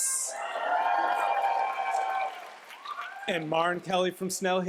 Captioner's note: cheers, applause